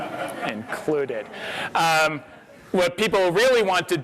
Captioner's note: audience laughs